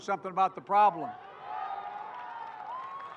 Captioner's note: cheering and applause